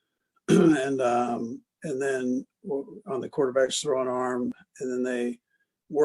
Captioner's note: cough